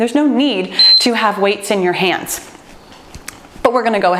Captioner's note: timer beeps